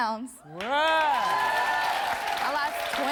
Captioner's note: audience applauds